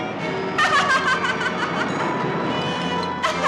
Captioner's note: laughing